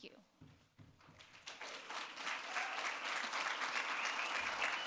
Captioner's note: audience claps